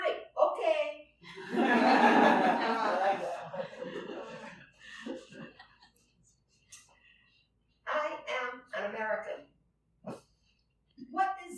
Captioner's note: laughter